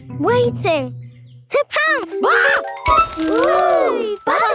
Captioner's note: screams